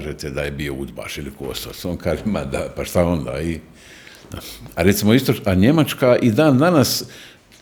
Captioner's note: snort